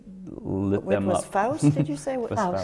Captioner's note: laughs